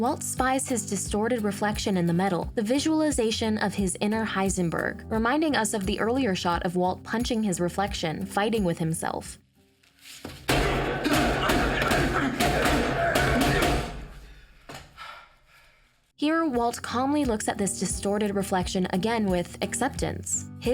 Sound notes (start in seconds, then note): 10.9 grunts